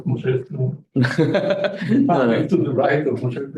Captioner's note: laughs